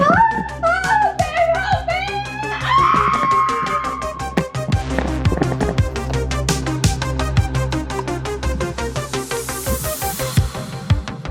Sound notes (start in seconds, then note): 2.8 speaker screaming; 4.8 tense electronic music